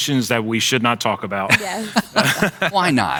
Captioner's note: laughing